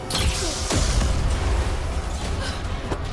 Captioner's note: laser blasting; Melissa gasping